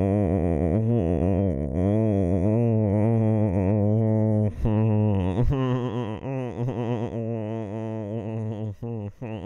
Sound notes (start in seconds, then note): 3.4 man making creepy laughter